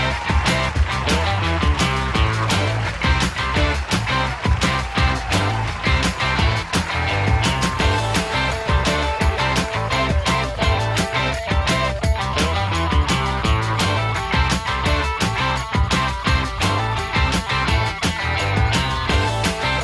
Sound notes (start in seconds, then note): 12.8 audience cheers; 16.9 upbeat music